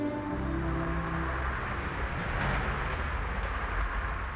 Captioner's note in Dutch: draaiende automotor